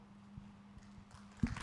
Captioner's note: applause